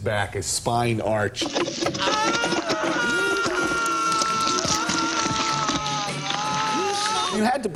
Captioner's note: screaming